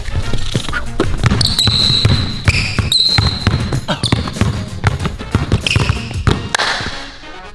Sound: kissing noises; shoes squeaking; ball bouncing; claps

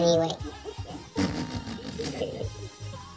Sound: buzz-chuckling

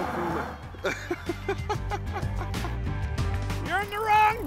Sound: laughing

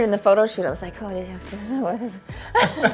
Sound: laughing

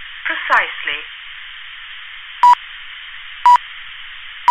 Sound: beep, beep, beep

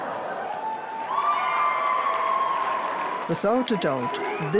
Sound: crowd cheers and applauds

